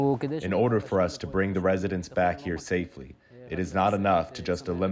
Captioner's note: through translator